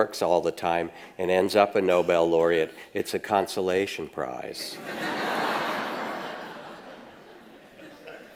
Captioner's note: audience laughs